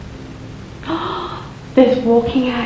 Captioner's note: gasp